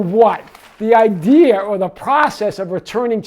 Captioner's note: paper rustling